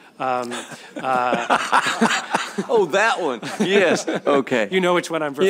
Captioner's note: laughter